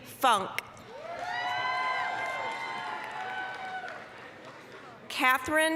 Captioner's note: applause, cheering